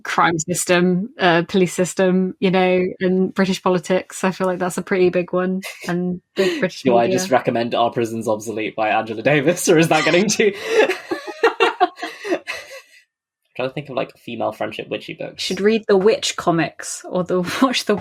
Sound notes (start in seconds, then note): 12.6 laughs